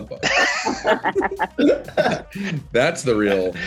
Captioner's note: group laughs